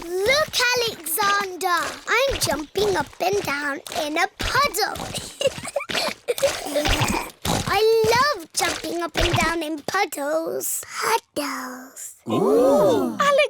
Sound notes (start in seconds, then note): 0.1 snorts; 5.1 giggling